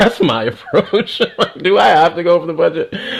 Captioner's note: laughs